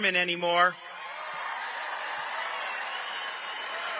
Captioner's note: applause